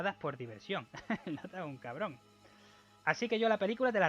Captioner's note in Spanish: risa